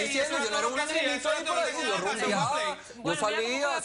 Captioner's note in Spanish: Hablan al unísono